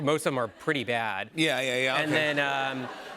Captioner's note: laughter